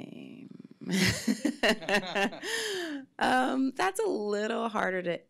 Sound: laughs

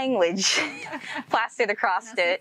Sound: both laughing

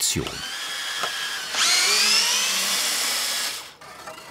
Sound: high whirring

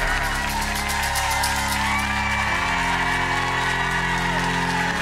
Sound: creepy laughing; audience cheering; haunting organ music

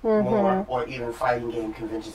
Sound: sounds of agreement

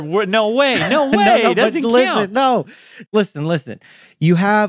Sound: laughs

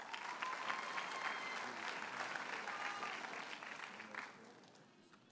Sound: audience cheers and applauds

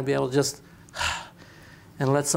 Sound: exhales

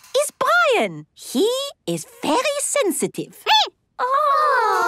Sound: squeaking

